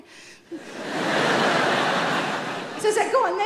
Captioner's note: audience laughing